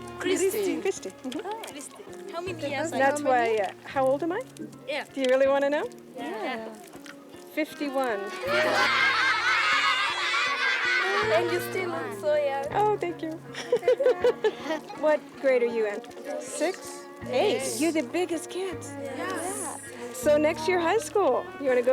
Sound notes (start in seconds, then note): 8.2 students cheering in excitement; 13.4 chuckles